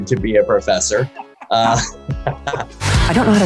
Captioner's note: laughter